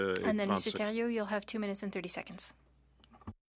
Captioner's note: speaking French